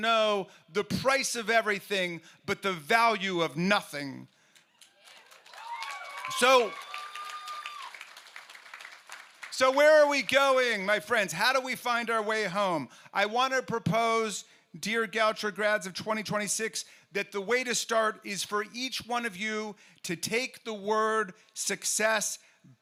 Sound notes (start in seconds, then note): 10.7 cheers